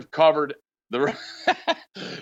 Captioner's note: laughs